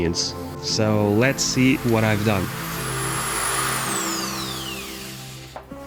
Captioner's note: drill sound